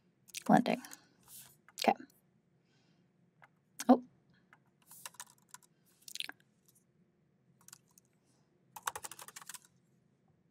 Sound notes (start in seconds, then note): 5.4 keyboard clacking